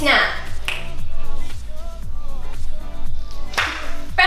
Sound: fingers snap

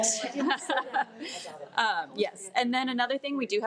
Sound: board members laugh

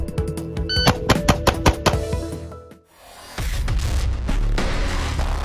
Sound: beeping; shots firing; intense music

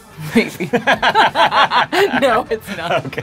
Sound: both laugh

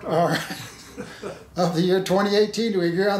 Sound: laughing

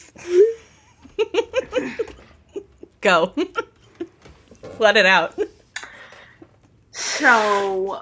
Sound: laughing

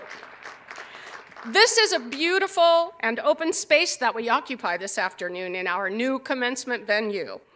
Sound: cheers and applause

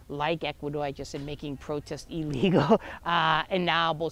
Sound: chuckles

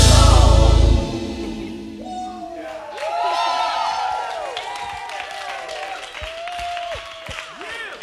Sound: cheering clapping

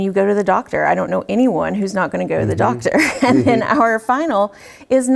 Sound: laugh

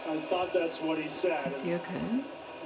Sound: TV playing

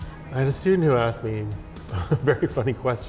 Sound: laughs

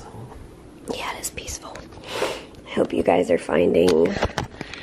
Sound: whispering

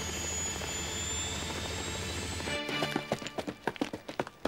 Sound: helicopter engine whirring

